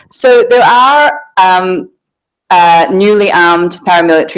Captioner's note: none